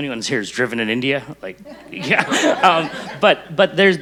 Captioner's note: group laughing